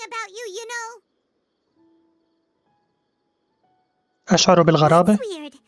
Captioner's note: silence